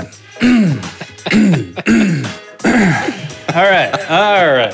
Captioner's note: throat clearing